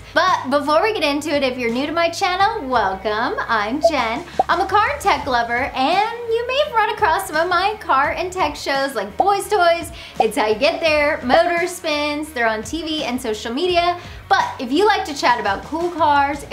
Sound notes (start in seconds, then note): 3.8 graphics pop; 10.2 graphics popping